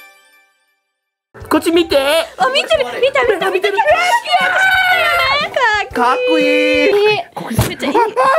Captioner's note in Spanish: Ruidos felices en japonés